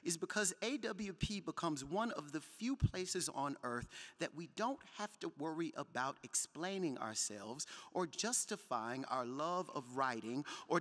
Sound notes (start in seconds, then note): none